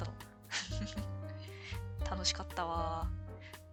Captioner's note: laughs